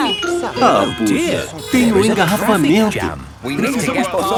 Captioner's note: brakes screeching; honking